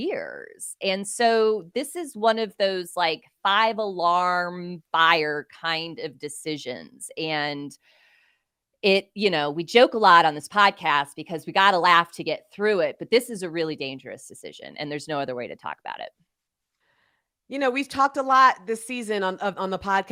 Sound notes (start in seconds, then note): none